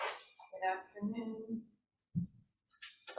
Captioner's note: none